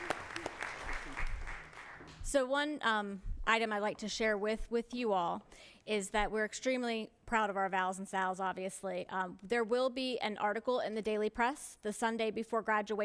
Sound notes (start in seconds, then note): 1.8 applause